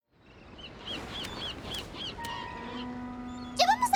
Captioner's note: gulls squawking